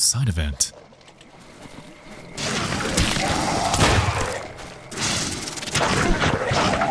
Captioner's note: doctor snarling; blood gushing